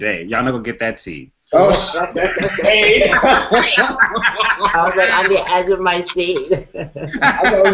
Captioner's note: laughter